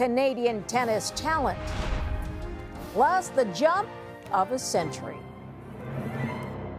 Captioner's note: cheering